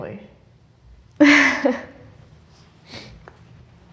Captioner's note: giggles